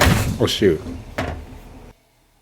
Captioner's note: bonk